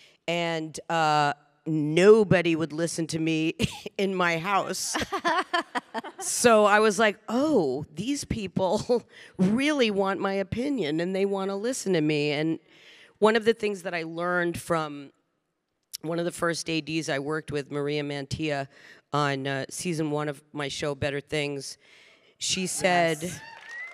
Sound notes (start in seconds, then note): 5.0 panelists chuckling; 23.2 audience applauding and cheering